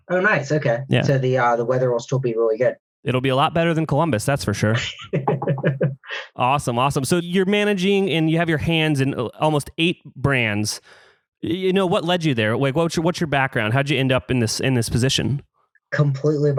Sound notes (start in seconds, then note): 4.6 laughs